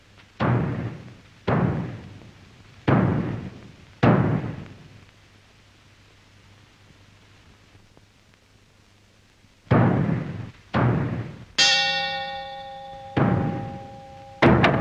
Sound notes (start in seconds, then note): 1.4 hammering; 10.7 hammering; 11.6 clock strikes